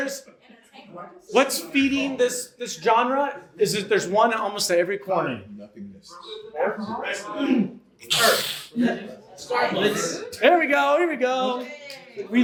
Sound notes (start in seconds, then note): 5.6 audience answering